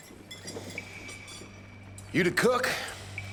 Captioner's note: scraping around his bowl